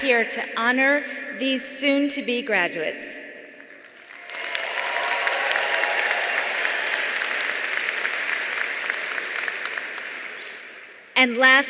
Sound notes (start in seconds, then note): 3.8 audience applauding; 3.9 audience cheering